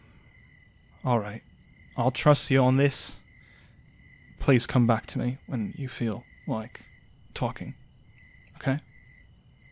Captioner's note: sighs deeply